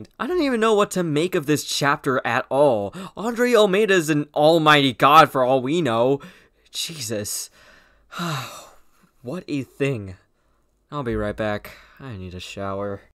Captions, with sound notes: I don't even know what to make of this chapter at all. Andrei Ulmeyda is an almighty god for all we know… Jesus. *sigh* what a thing. I'll be right back. I need a shower.